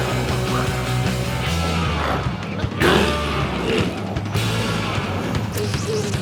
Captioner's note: glowzies growling; energetic music continues